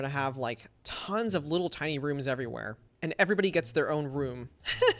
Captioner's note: laughs